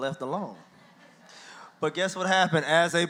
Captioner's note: audience laughs